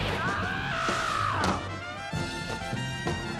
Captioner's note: yells